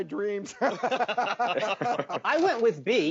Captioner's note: all laughing